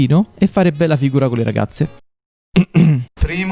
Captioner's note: coughs